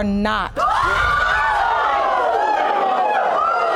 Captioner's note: audience yells